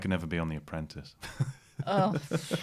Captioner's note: laughter